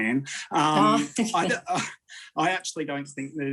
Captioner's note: laughs